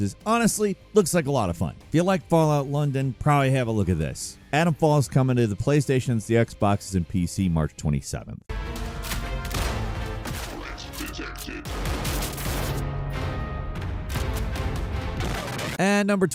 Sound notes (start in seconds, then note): 8.8 gunshots firing; 12.7 dramatic music